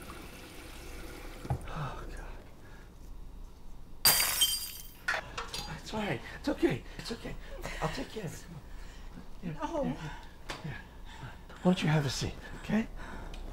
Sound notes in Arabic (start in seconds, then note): 4.0 كسر الزجاج